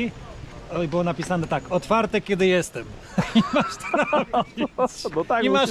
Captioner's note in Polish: śmiech